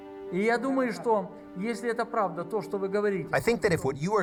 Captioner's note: speaking foreign language